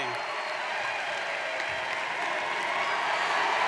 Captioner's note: audience cheers